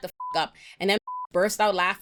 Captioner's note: beep